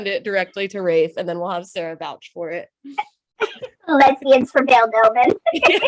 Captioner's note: laughs